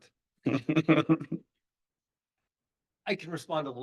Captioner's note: laughing